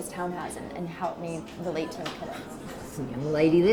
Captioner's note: speaks faintly